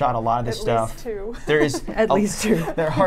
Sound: laughs

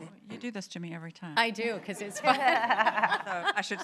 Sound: laughter

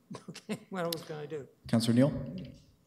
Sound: chuckles

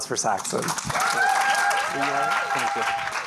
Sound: applause

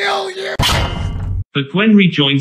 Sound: clang!

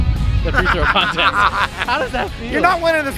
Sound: laughs

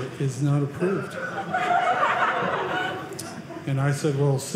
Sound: audience laughing

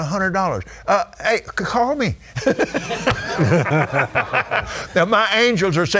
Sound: laughing

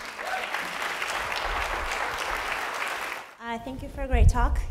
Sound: applause

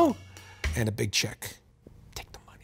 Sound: quietly; whispering

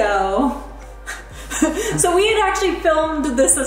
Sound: both chuckle

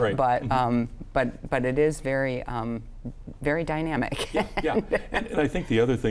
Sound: laughs

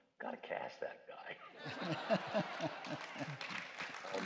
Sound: laughter and applause

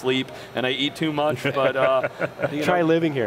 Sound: laughter

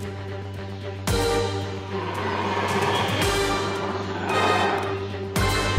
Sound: carnotaurus roaring

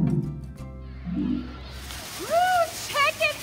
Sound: sounds of children playing on the playground

